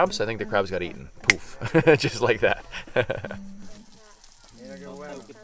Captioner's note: chuckles